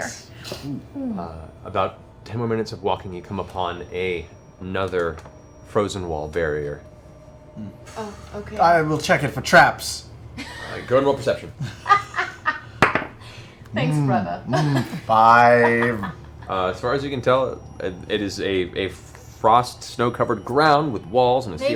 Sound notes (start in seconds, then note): 11.5 laughs